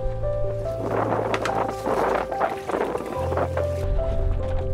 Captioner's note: gusting sound